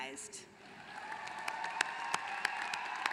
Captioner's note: applause